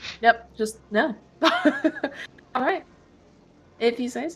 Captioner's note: laughs